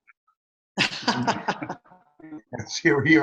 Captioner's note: people laughing